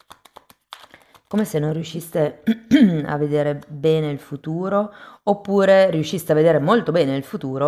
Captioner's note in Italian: schiarire la voce